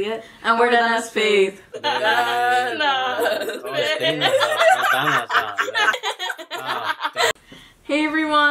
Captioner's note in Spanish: La risa